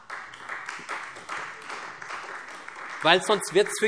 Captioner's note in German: Beifall Freie Demokraten